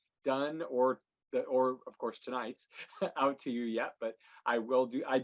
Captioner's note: chuckles